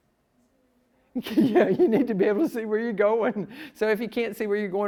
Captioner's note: laughs